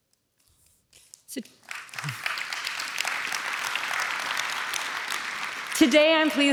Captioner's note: applause